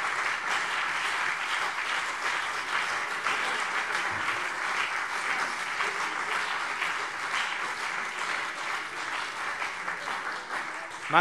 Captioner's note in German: Beifall BÜNDNIS 90/DIE GRÜNEN und CDU